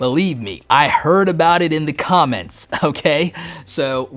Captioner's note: chuckles